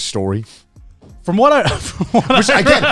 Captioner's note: laughing